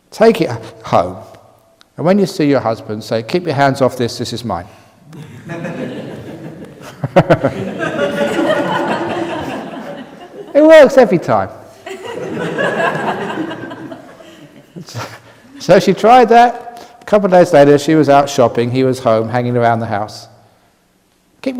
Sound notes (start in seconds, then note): 9.4 laughter; 11.8 everyone laughing